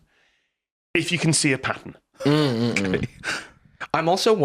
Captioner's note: laughing